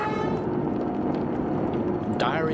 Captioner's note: fire crackling